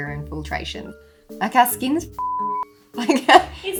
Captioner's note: beep